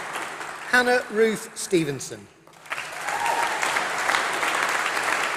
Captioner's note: applause